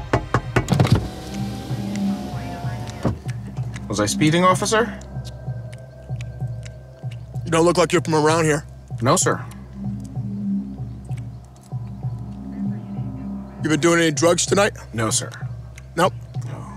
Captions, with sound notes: (knocking) - Was I speeding officer? (loud chewing) - You don't look like you're from around here. - No, sir. (suspenseful music) - You've been doing any drugs tonight? - No, sir. - Nope?